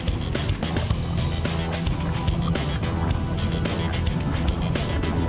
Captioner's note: underwater bubbling